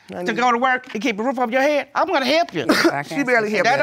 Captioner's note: scoffs